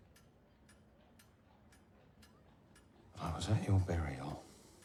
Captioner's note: clock ticking